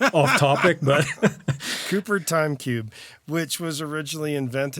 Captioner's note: laughs